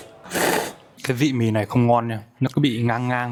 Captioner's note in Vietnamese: khịt mũi